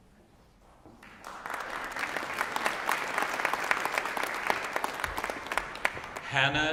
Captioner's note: applause